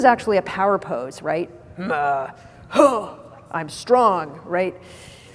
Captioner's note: grunts